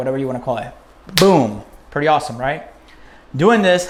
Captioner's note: snaps fingers